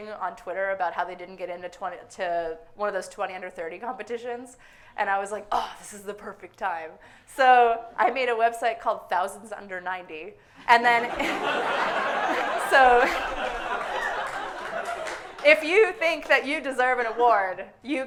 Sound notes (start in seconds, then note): 11.0 audience laughing hysterically; 11.1 suppressed laughter